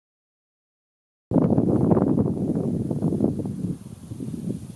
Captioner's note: wind blowing